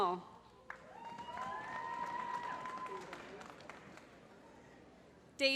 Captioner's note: applause